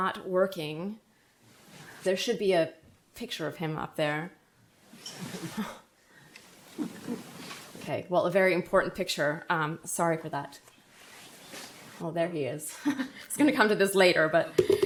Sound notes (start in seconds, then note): 5.3 laughs; 12.8 laughs